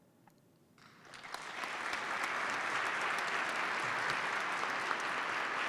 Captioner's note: participants clap